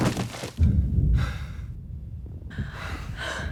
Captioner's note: muffled explosion